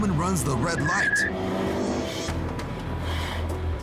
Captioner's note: car engine revving